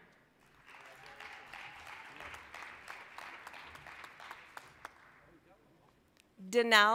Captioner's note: applause